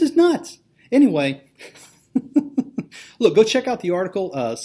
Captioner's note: laughs